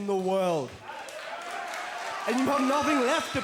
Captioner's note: crowd cheering